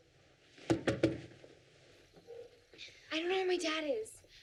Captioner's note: bangs on door